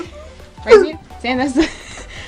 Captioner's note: happy noises